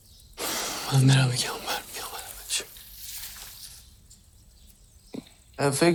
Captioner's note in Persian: صدای خرناس